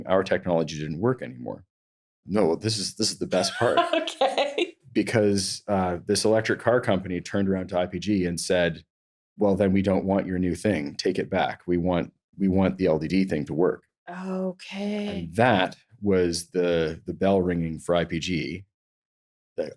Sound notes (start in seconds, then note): 2.7 laughs